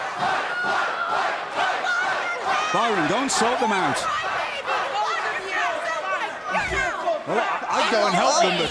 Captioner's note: fans chanting